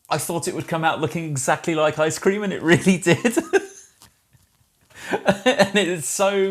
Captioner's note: laughs